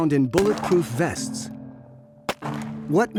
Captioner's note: gunshot